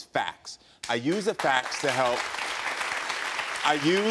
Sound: audience applauds

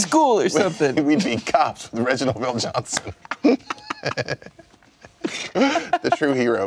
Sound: laughing

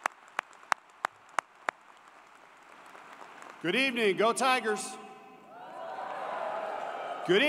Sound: applause

